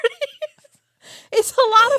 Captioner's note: both laughing